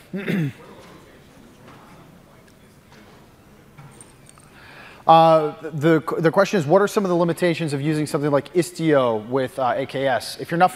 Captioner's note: off mic